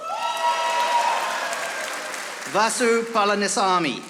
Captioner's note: audience applauding